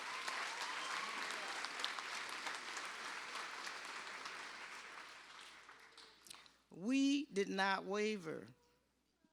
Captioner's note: applause